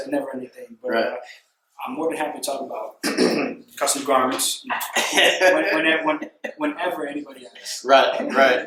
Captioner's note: clears throat